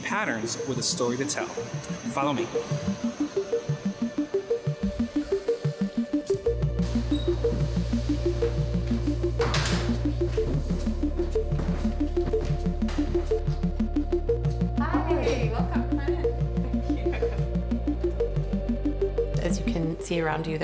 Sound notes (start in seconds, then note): 7.1 pulsating music; 9.4 door shuts